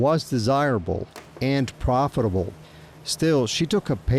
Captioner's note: gear clacking